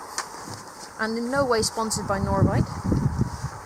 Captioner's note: wind rustles over microphone